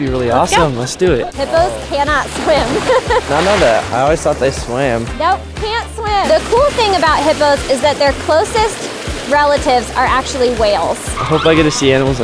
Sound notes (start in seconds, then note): 2.4 laughs